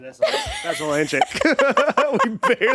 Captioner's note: both laughing